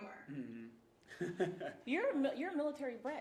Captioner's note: host chuckling